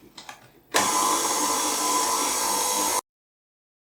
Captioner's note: mixer noise